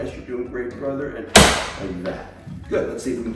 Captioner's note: table pops